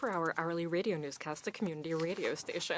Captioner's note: speaking French